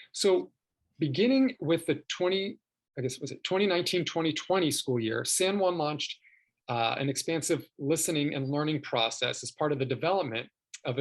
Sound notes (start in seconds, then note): none